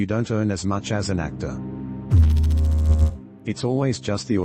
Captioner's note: electrical noise